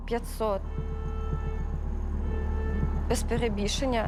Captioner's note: horn blaring